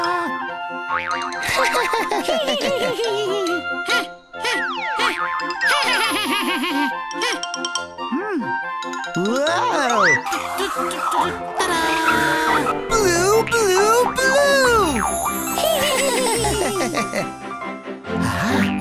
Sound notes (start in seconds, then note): 1.5 laughing